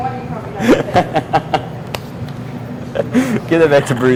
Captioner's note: student laughs